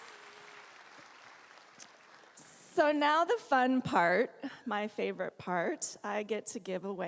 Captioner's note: applause